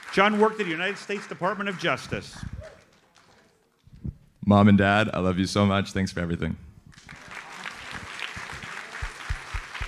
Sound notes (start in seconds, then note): 6.9 audience applauds